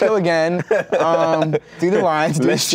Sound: laughs

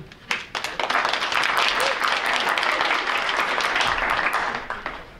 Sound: audience applauds

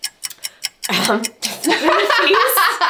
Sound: laughing

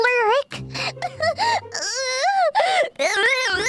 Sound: sobbing noises

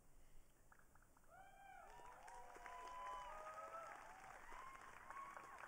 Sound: audience cheering

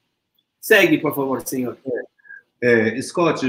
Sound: speaks portuguese

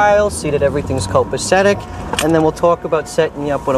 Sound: none

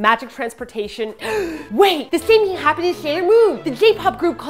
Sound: gasp

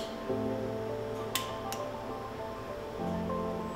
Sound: machine handles clicking; gentle music

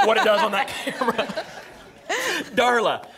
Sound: laughter

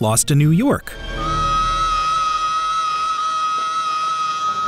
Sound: screaming

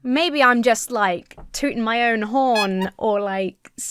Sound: clown horn honks

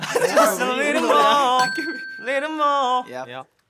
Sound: laughing; dinging

